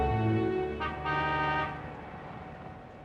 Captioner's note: vehicle Horn Honks